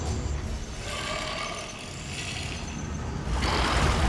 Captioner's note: crocodile snarls